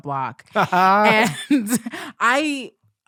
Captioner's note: both laughing